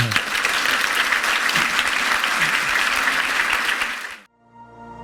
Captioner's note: audience clapping